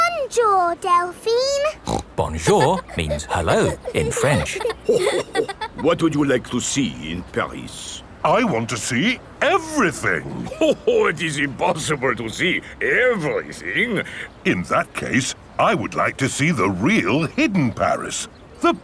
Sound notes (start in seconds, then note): 1.7 snorts; 5.1 chuckles